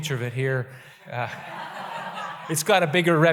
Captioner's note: audience laughter